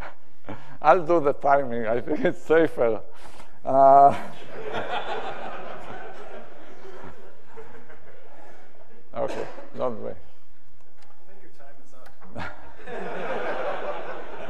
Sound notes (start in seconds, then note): 4.3 audience laughs